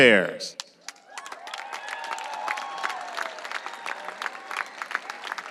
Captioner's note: audience applauding and cheering